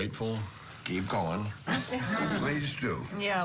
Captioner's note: laughter